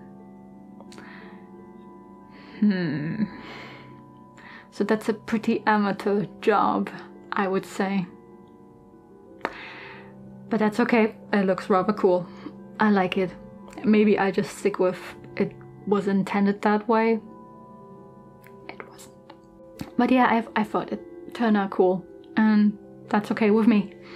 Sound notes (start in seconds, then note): 17.3 whispers